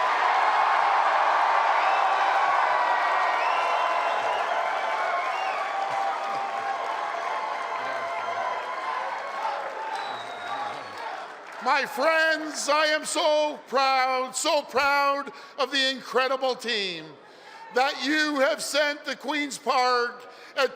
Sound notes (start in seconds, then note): 2.6 applause and cheering